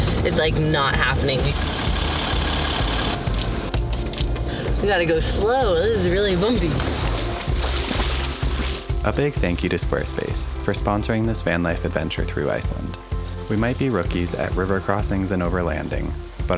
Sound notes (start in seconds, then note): 1.5 engine purring; 3.3 clicking; 7.4 splashing